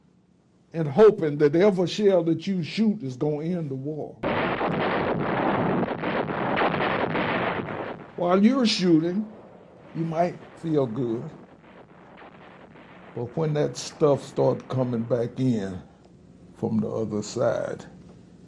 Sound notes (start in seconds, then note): 5.3 artillery firing